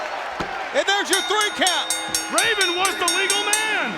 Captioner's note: bell ringing